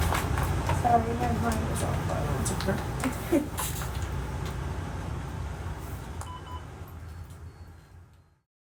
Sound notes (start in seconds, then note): 3.1 patient giggling; 7.0 machine beeping